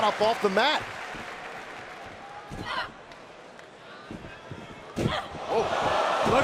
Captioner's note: crowd cheering